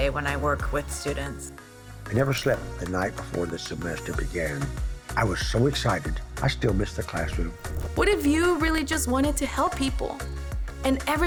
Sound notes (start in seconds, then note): none